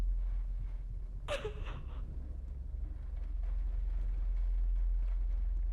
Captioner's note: Catherine crying